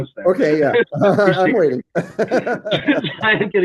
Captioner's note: laughter